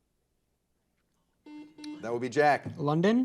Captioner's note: buzzer beeping